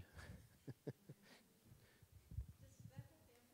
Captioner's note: laughing